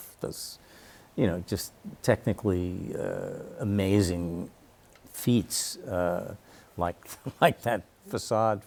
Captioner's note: chuckles